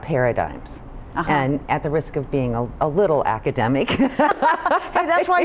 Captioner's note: laughs